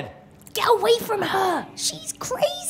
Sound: Lucy, whispered

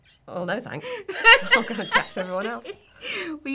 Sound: laughing

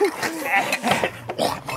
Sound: laughter

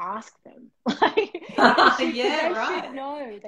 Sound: laughter

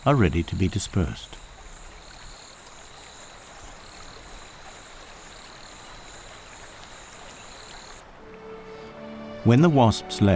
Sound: nature sounds

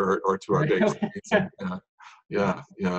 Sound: laughing

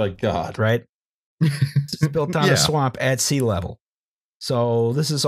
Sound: laughs

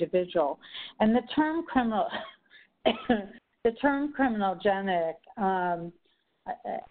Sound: coughs

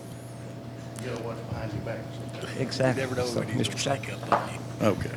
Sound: faintly speaking

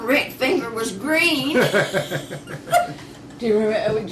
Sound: laughter

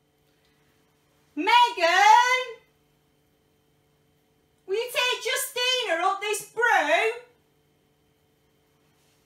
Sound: shouts

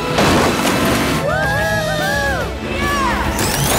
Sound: cheering

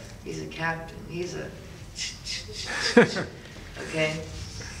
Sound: interviewer laughs

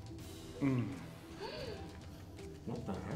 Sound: gasps

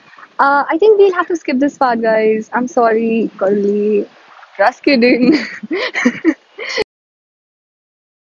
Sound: awkward laugh

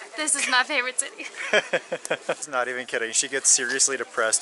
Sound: laughter

